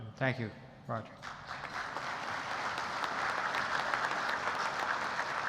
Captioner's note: audience applauding